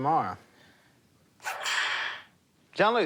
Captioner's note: whip lash